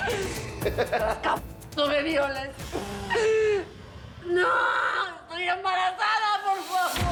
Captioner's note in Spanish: risas